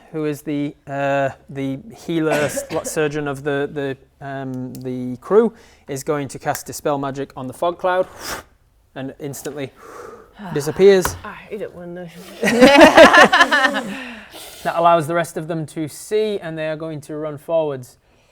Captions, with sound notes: who is the healer, surgeon of the crew, is going to cast Dispel Magic on the fog cloud *poof* and instantly disappears I hate it when they *laughing* That allows the rest of them to see and they are going to run forwards